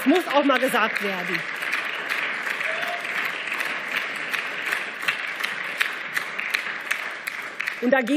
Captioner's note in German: Beifall